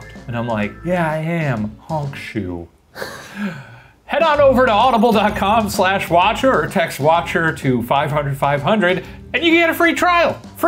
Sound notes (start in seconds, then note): 3.0 laughs